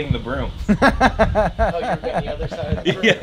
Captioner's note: laughter